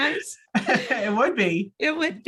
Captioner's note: laughing